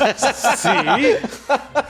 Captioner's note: laughing